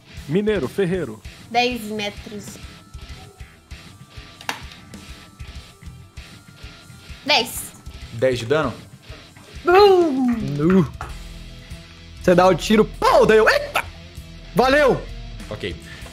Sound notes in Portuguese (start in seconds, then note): 12.9 pow